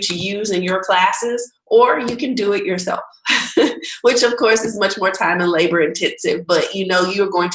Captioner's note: laughing